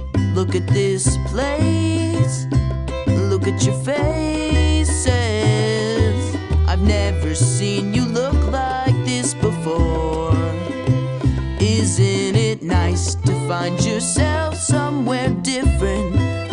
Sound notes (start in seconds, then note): none